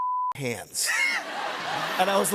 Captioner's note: laughter